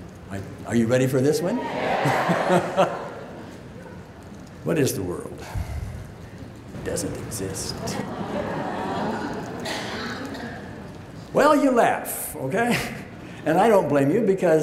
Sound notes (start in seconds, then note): 1.3 audience yells yes; 7.8 laughing